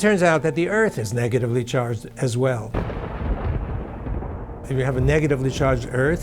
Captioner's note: thunder rumbling